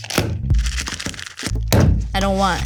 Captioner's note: container pounding on counter; casing crunches; more pounding